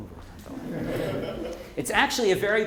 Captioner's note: group laughing